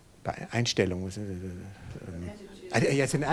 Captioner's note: speaking in foreign language